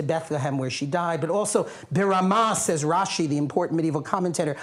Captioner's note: non-english